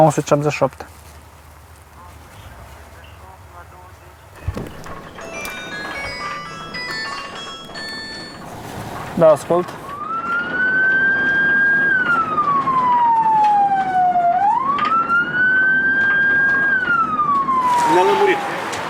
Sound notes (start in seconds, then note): 4.3 phone ringing